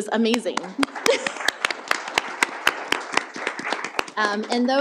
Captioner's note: applause